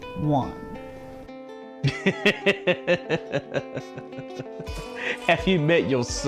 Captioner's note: laughter